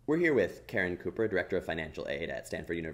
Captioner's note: voiceover